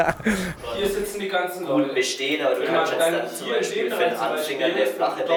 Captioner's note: chatter of an association meeting